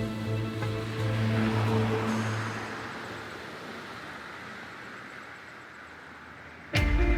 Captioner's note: birds chirping; vehicle droning